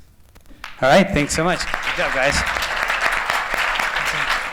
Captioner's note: applause